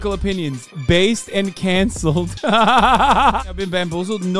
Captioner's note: laughter